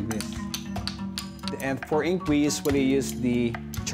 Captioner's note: tapping